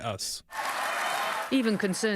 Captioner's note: cheers and applause